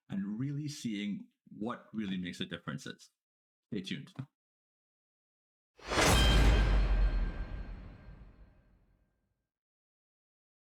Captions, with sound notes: and really seeing what really makes a difference. Stay tuned. (loud boom)